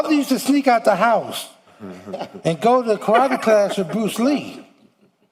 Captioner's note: laughter